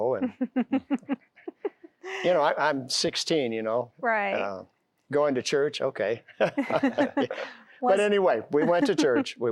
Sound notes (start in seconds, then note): 0.2 giggling; 6.3 laughter